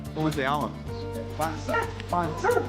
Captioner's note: speaks in foreign language